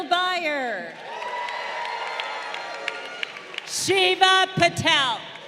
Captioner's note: crowd cheering